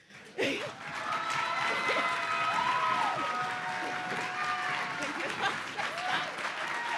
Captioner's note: audience applauding; audience cheering